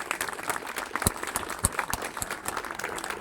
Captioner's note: applause